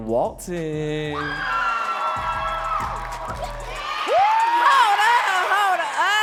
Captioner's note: audience cheering and clapping